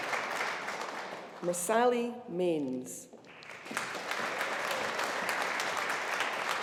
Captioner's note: audience applauding